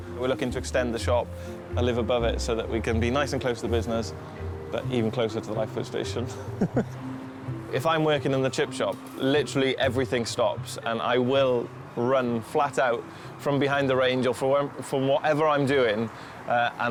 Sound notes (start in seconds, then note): 6.5 chuckles